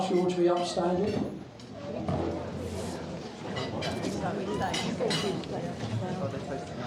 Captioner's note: crowd chattering